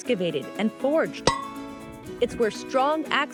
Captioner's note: clang